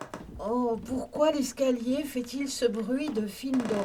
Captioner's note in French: escalier ancien qui craque